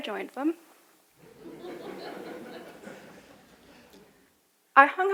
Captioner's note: audience laughing